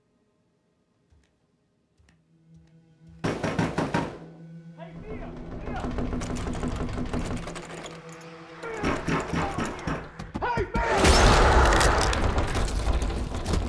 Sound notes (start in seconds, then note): 3.3 knocks booming; 5.1 door rattles; 11.0 door crashes